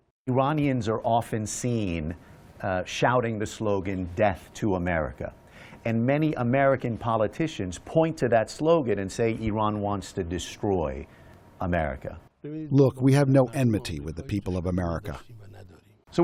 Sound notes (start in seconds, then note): 13.0 through translator